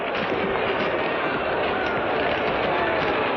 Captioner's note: shouting